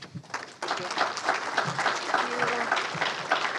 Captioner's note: crowd clapping